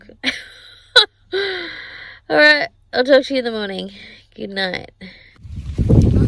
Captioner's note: scoffs; lots of wind noise